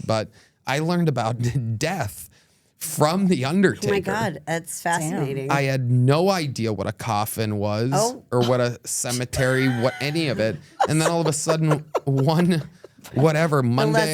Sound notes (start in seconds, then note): 8.9 laughs